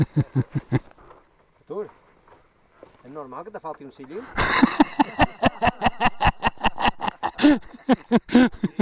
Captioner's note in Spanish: risas; Risas